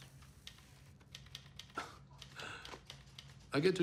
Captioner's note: chuckles